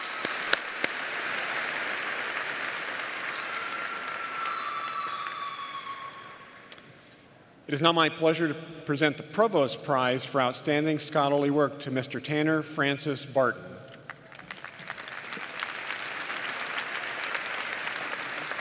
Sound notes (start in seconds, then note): 2.6 applause